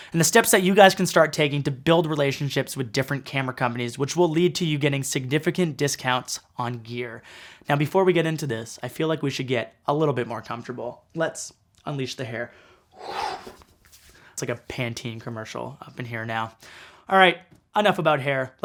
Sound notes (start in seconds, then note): 13.0 makes whooshing sound